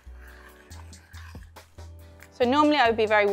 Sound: spoon scraping

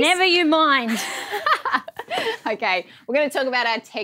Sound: laughs

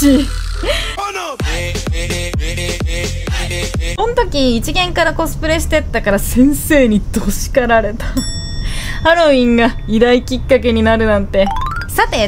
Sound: laughs

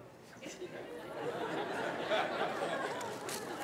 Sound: laughter

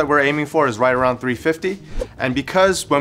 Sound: air whooshing

